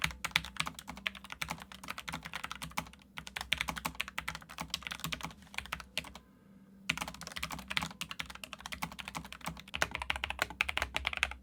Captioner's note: typing